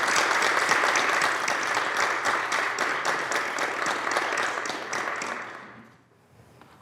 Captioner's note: applause